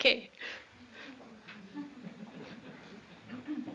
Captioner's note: laughter